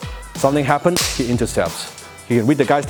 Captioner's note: hands clap